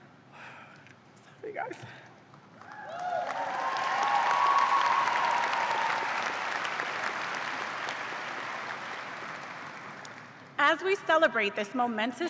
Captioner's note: cheers and applause